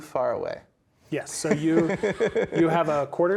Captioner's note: players laughing